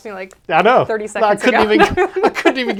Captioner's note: laughs